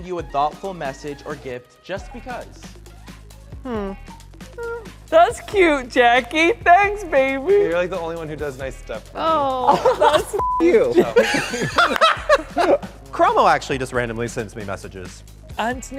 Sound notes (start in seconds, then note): 10.4 beep; 11.0 all laugh